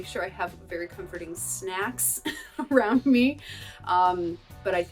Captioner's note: laughter